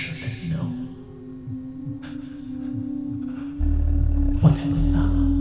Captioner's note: whispers